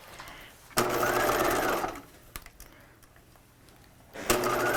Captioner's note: machine whirring